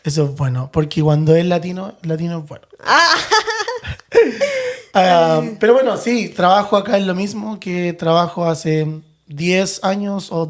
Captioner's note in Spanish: risas